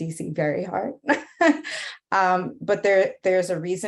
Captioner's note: laughing